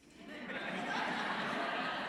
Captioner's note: laughs